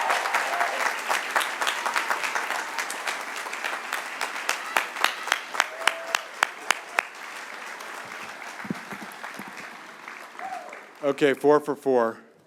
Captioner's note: cheers and applause